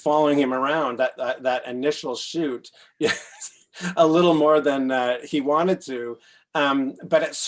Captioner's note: laughs